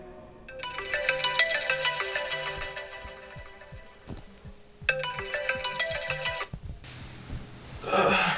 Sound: phone rings

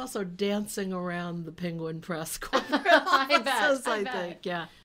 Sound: laughing

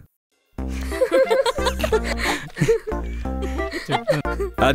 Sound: everyone giggling

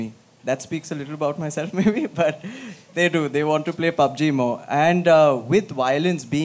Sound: laughs

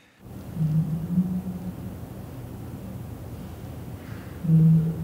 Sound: muffled humming

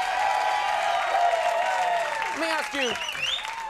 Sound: audience cheering

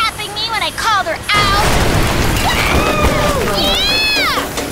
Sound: crash

